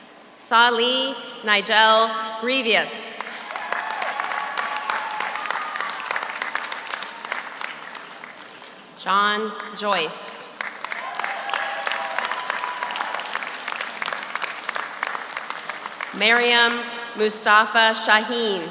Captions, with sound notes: Salih Nigel Grevious. (audience cheers) (audience applauds) John Joyce. (audience cheers) (audience applauds) Mariam Mustafa Shahin.